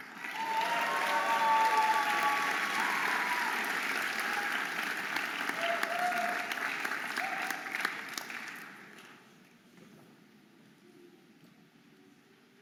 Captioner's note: audience applauding and cheering